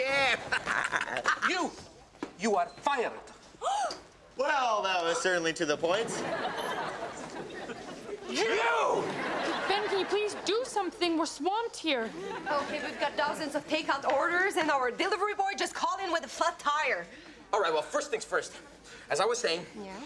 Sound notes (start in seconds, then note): 0.0 all laughing; 3.0 Robin gasps; 5.8 audience laughing